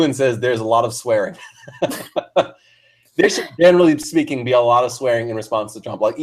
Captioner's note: laugh